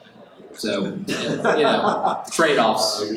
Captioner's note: attendee laughs